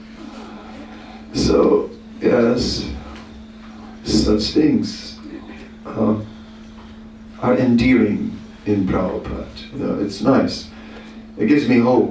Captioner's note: laughter